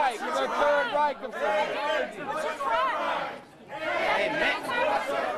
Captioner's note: chanting